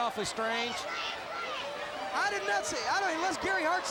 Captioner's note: crowd chatter